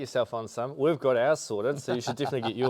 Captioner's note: laughing